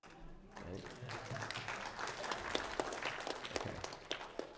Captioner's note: applause